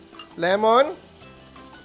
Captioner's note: sizzles